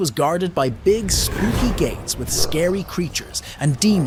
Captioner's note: creatures growling